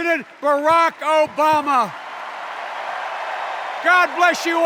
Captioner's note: extended cheers and applause